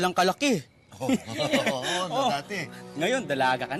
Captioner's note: laughter